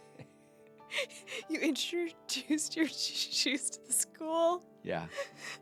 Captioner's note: laughs